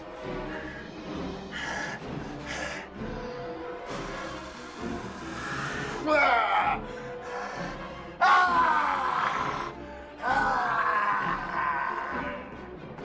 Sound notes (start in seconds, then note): 2.0 blows; 7.5 yells